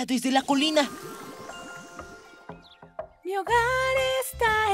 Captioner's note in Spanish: Sonido de madera golpeando con ritmo